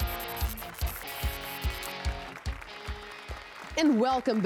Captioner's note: applause and cheers